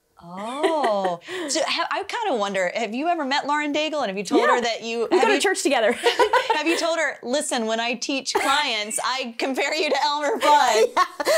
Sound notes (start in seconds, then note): 0.3 laughs; 6.0 laughs; 9.7 laughs